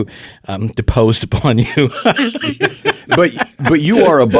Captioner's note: laughs